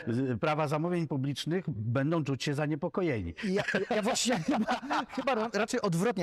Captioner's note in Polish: śmiech